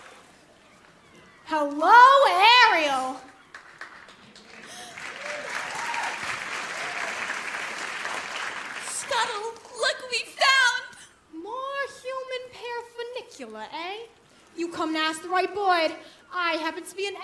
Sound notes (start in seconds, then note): 5.8 applause